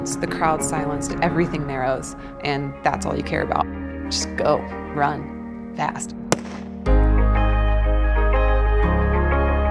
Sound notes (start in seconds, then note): 6.3 starting gun fires; 6.9 hopeful theme